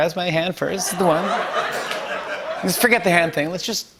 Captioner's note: laughter